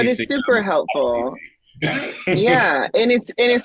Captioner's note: chuckles